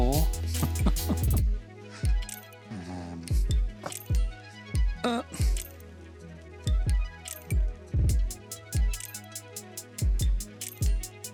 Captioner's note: laughs